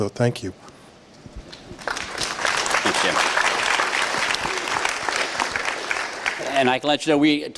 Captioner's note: applause